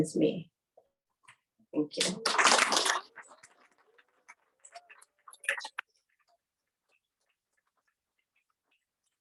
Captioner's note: applause